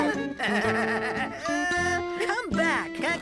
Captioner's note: laughing